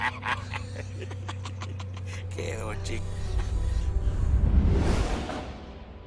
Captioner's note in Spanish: Risas